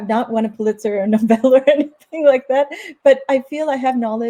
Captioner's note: laughs